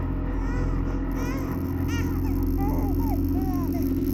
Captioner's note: suspenseful music; baby crying